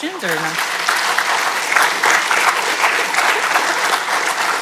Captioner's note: audience clapping